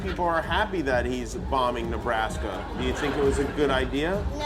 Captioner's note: laughter